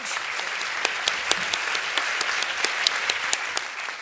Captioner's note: applause